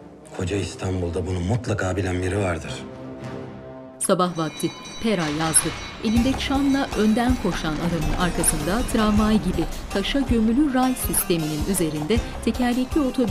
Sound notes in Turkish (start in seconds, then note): 4.2 Tramvay sesi